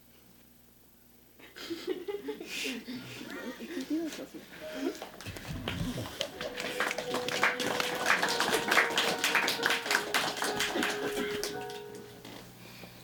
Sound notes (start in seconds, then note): 5.5 applause